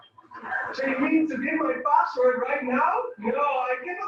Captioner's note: laughing